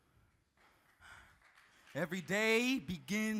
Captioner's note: audience clapping